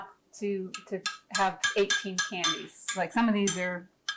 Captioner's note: glass jar and spoon clacking